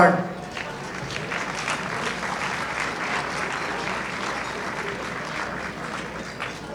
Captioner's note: audience applauding